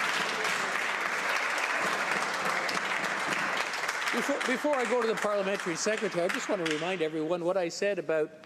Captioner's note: some Applause